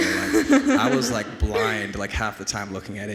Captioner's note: and audience laughs